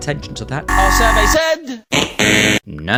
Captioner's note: suspenseful music; buzzer blares